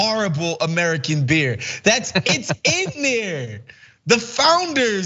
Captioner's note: laugh